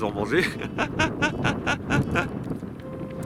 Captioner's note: laughs